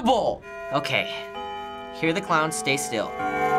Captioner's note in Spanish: repique del reloj